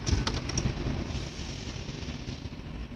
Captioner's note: traffic noises